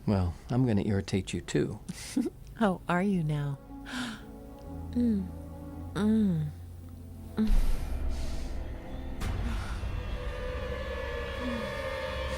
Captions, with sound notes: Well, I'm gonna irritate you too. - (chuckles) Oh, are you now? (Louise moaning) (tense music)